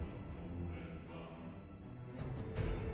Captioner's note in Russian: none